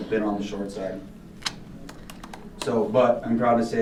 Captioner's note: clicks tongue